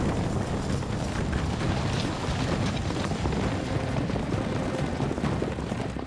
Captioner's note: fast hoofbeats